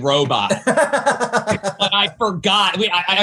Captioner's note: laughs